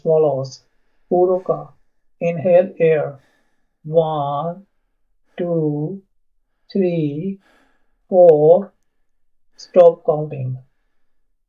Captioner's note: inhale air